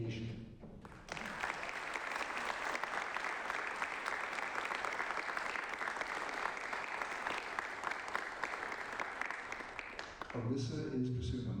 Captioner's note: applause